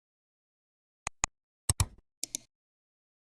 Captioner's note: 3 different clicks